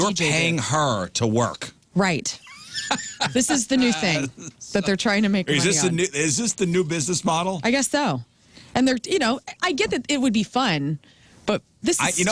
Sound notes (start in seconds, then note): 2.4 laughing